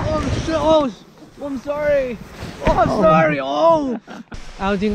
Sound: bumping sound

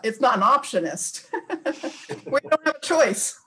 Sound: laughing

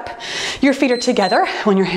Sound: timer beeps

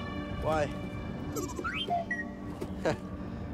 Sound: wee-boop-beep

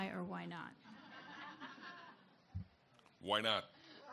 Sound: audience laughs

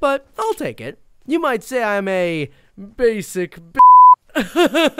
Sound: beep; laughing sarcastically

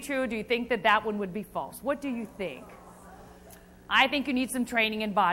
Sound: crowd

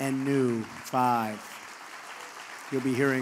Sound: applause

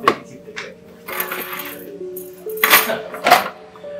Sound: keys jangle

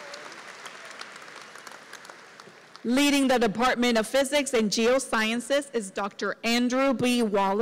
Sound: applause

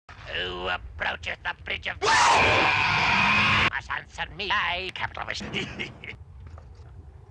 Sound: chuckles

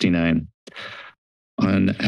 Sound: inhales

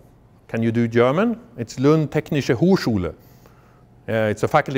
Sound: speaking foreign language

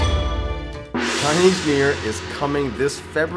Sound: gong resounds

